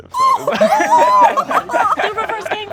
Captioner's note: laughter